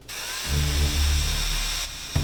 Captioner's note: whirring